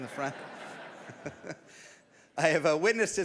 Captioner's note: audience laughs